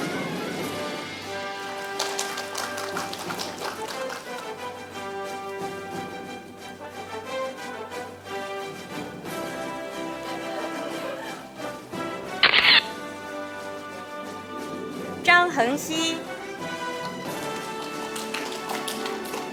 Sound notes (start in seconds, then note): 0.2 audience applauding; 4.9 orchestral music; 12.4 camera shatters; 16.0 audience applauding